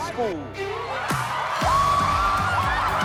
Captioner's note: cheering, screaming; uplifting music